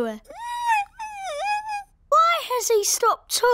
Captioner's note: squeaks